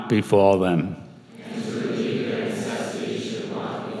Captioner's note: crowd